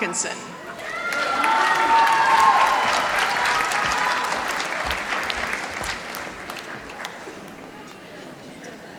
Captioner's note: applause